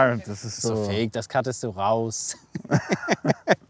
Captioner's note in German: lacht